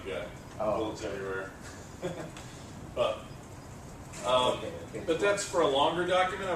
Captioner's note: laugh